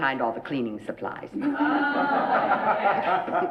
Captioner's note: laughing